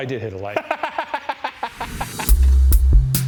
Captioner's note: laughing; exciting music